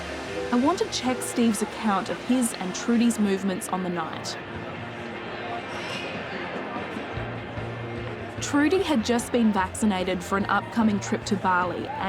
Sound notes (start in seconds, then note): 4.6 people chattering; 4.6 upbeat music